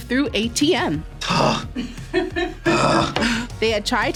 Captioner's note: laughs